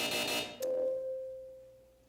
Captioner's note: buzzer, ding